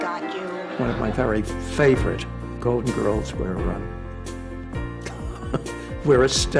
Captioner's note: laughs